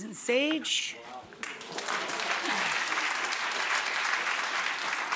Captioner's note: applause